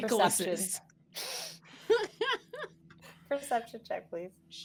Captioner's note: all laughing